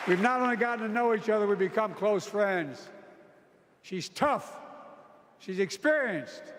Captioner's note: applause